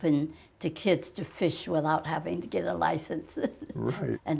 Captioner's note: chuckles